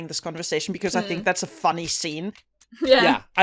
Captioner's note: laughter